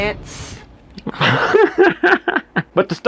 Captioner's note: dad laugh